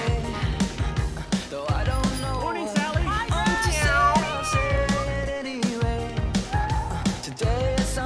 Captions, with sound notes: -Morning, Sally! -Hi, Brett! [snails meowing]